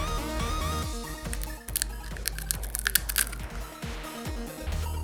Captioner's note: crack crack